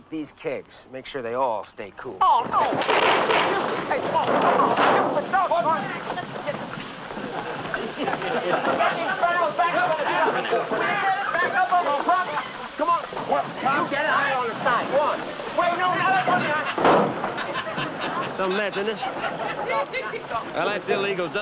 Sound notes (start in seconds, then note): 9.1 laughing; 14.8 shouting